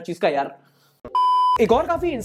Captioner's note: beep